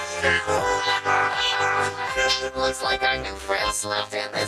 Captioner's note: braying